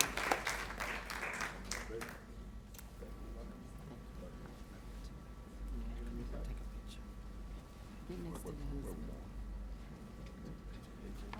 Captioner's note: applause